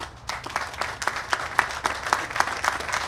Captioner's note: applause